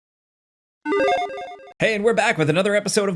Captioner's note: video game tones